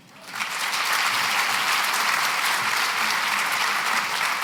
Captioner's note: applause